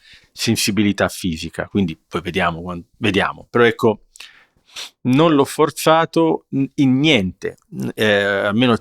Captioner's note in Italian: sbuffare